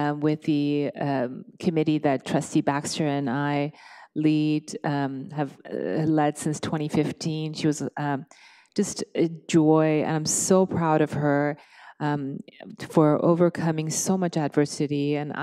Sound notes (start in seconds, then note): none